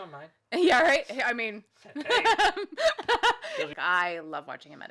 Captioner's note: laughs